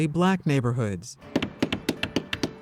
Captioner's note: pounding